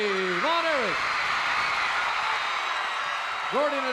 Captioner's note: crowd cheers